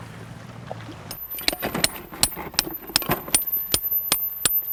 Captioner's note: hammer tapping